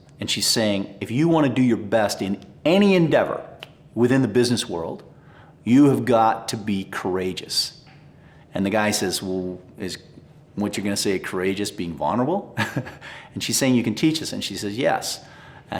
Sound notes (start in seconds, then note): 12.5 chuckles